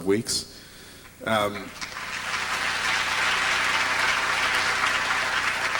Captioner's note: applause